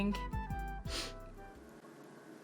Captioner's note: sniffles